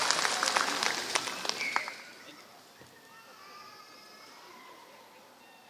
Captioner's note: applause